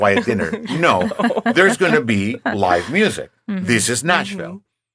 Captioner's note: laughing